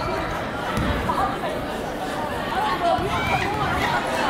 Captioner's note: chattering